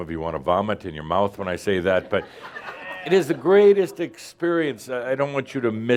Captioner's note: some laughter